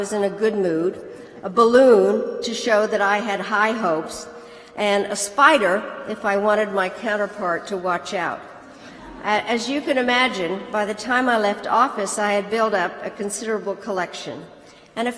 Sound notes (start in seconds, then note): 9.0 laughter